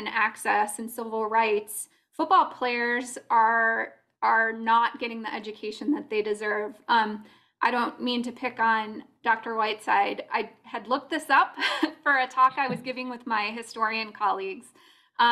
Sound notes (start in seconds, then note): 12.5 laughter